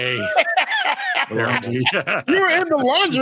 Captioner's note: laughing